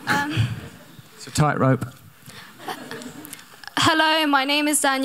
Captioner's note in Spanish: Risa de la audiencia